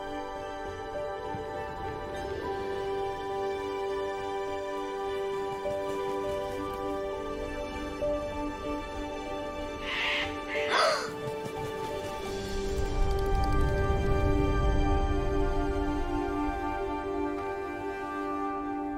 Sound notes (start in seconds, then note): 9.7 bird cawing; 10.6 gasp